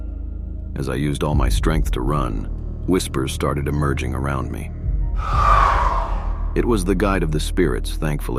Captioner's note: whispers